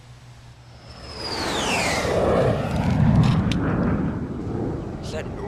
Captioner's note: fighter jet swooping across the sky